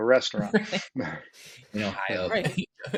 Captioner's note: laughs